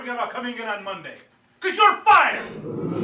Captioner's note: audience gasps